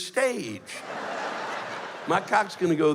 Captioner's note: laughter